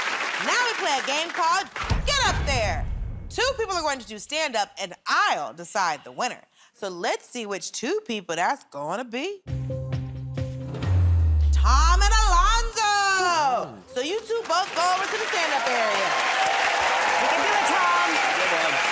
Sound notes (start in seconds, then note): 15.9 cheers and applause; 18.7 cheers and applause